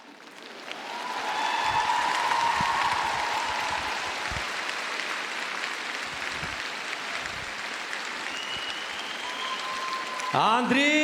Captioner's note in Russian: крик